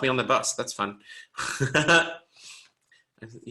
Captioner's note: laughs